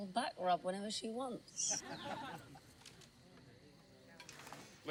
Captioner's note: laughing